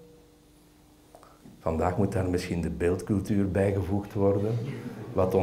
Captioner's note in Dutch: gelach